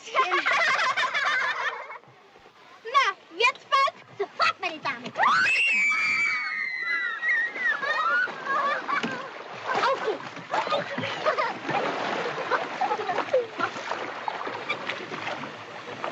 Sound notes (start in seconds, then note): 0.0 laughter; 5.1 the Girls Scream